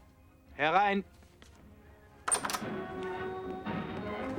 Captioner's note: speaking german